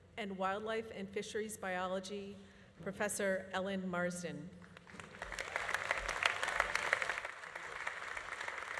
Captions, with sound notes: in Wildlife and Fisheries Biology, Professor Ellen Marsden. (audience applauding)